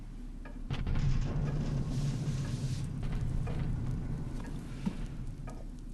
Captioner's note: far-off canon